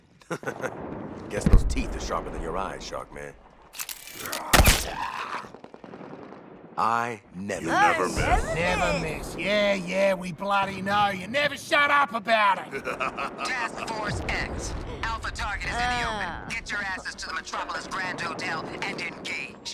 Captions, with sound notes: [Laughing] Guess those teeth are sharper than your eyes shark man. [Gunshot] I never miss [Mocking] Yeah, yeah we bloody know. You never shut up about it! [Laughing] [Voice on radio] Task Force X. Alpha target is in the open. [Voice on radio] Get your asses to the Metropolis Grand Hotel, and engage.